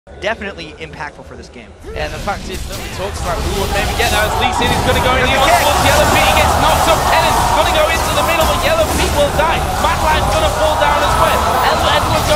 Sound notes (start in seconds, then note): 4.6 multiple voices; 8.6 loud Noises and Screaming